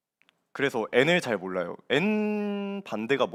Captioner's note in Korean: none